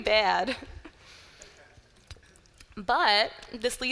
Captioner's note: laughter